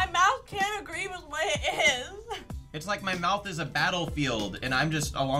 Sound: chuckles

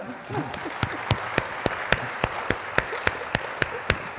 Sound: audience applauds

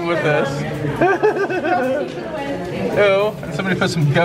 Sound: laughing

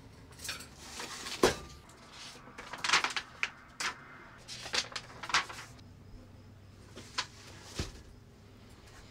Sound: paper flipping

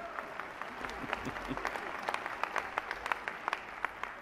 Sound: applause

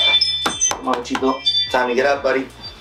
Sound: knocking on bed

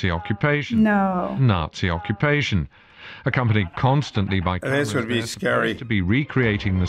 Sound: voice-over

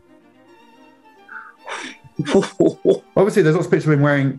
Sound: chortling

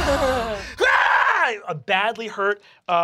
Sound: banging; screaming

